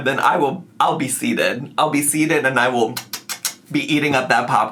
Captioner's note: imitates chewing